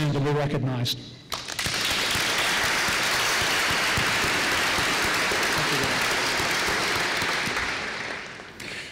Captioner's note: applause